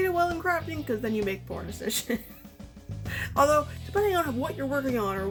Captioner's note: laughs